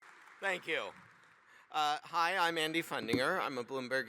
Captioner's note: applause